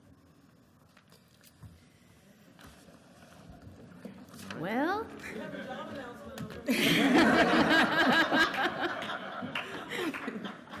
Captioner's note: laughter and Applause